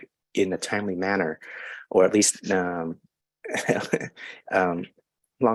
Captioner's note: chuckles